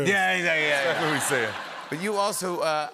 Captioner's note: laughter